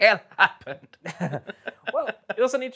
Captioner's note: both laugh